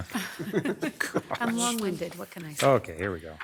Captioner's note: crowd laughs